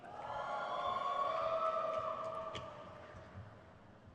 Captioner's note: crowd cheers